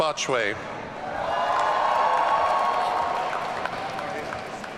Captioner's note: audience cheering